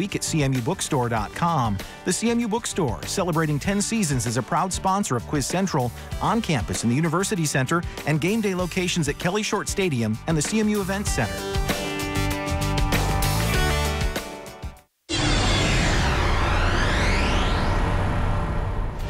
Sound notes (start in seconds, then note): 11.7 upbeat music; 15.1 electronic whooshing